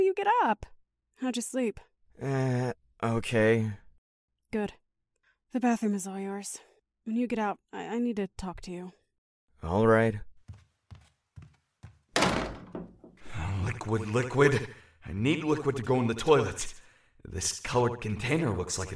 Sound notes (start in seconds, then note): 2.5 In Andy’s voice; 9.9 In Andy’s voice; 12.1 door closes